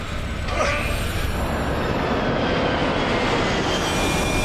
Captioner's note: wind whistling